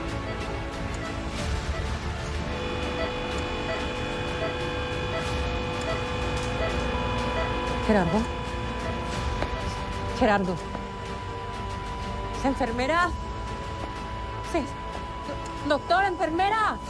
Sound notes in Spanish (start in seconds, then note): 5.3 Ruidos en el monitor; 7.4 Bip sostenido